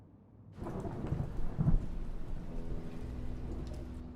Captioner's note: sound of rain falling; dramatic music plays